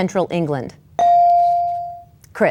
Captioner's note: bell dings